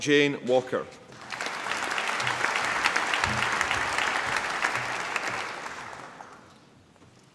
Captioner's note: applause